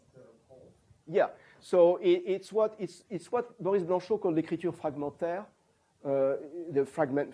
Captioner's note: french